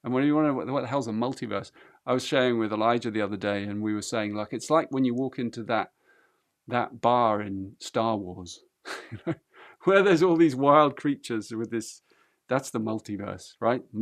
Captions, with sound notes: And what the hell's a multiverse? I was sharing with Elijah the other day, and we were saying, 'Look, it's like when you walk into that bar in 'Star Wars', you know, [laughs] where there's all these wild creatures with this-- that's the multiverse, right?